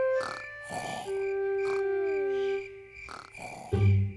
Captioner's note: george snoring